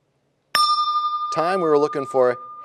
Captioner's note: bell rings, time expires